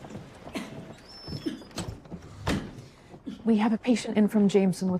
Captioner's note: coughing